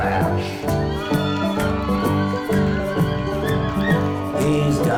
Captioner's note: crowd cheers